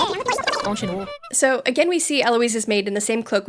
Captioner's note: clown honk